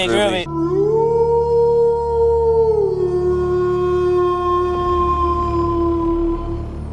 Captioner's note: werewolf howling